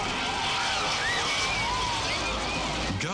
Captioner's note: people screaming